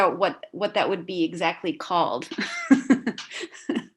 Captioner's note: laughs